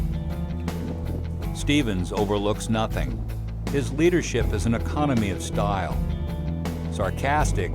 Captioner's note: voiceover